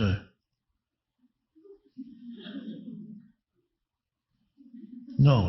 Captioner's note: audience laughing